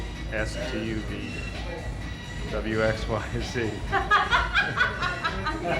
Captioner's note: all laugh